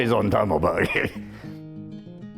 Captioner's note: chuckles